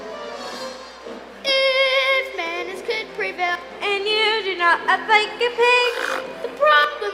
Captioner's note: snorts